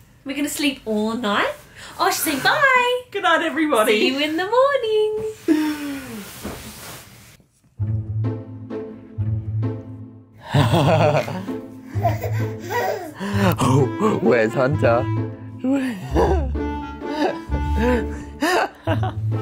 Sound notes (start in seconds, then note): 8.2 slow instrumental music; 10.5 laughing; 17.6 laughing